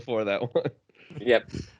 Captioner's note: laughs